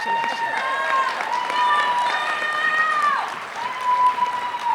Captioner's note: applause